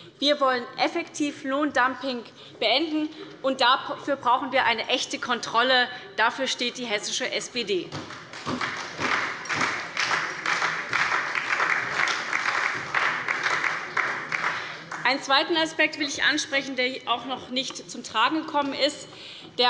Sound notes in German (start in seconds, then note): 8.0 Beifall bei der SPD